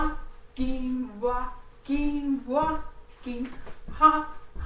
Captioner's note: walking